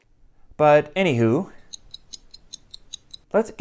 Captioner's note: clock ticking